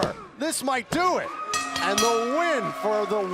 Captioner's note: bell ringing